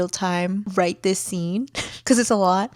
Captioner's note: laughs